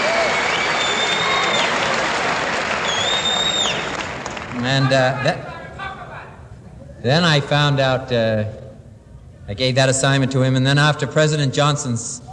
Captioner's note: applause